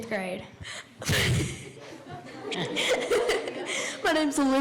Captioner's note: girls laughing